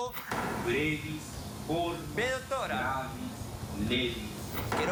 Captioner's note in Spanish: habla en latín